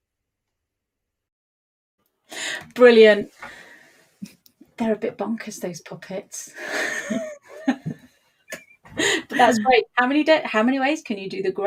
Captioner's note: laughs